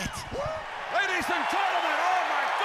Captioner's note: crowd cheering